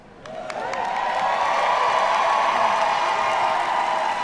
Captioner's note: audience cheering